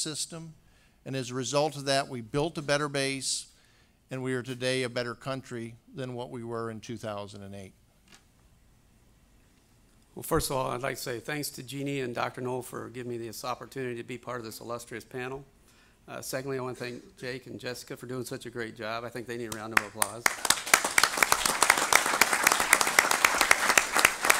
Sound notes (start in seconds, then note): 15.8 audience applause